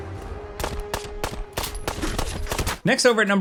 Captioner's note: gunshots crack